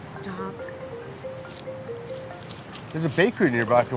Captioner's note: phone rings